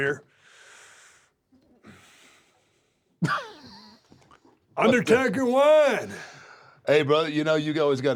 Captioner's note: laugh